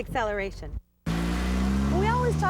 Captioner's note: revs